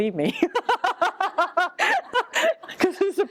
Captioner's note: laughter; laughs